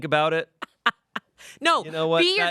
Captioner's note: Amanda laughs